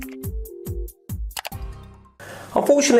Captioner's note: mouse clicking